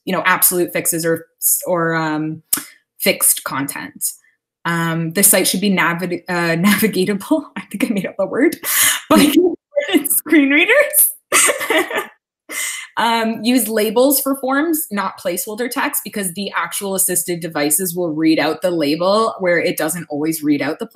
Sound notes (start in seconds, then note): 9.4 audio cutting out